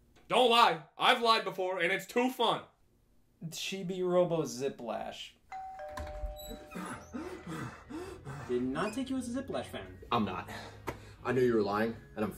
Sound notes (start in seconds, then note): 5.5 door bell rings